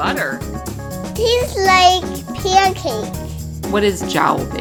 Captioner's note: child's voice